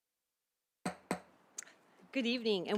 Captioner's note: gavel hitting dais